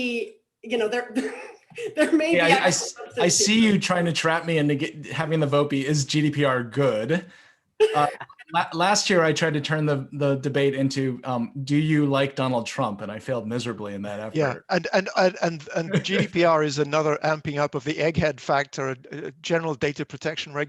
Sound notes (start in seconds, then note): 2.3 laughs; 7.9 laughs